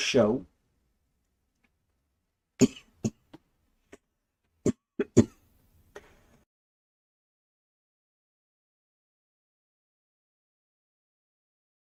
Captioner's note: coughing muted